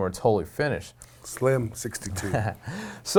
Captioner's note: laughing